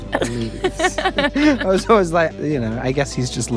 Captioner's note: Maya laughs